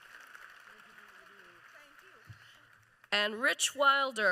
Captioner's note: applause